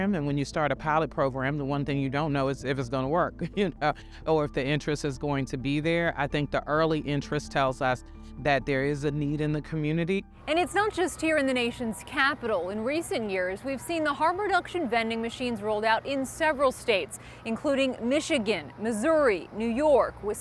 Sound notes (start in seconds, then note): 4.2 laughs